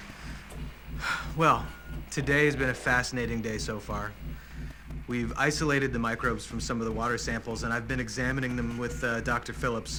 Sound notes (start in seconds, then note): 1.0 exhales deeply